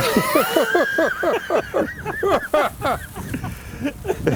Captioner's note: group laughs